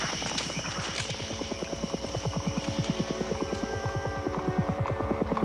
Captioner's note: helicopter Whirring In The Distance; hoofbeats Walking